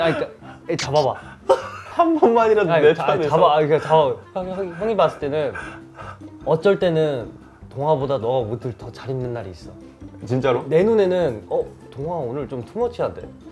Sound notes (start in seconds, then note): 0.0 sob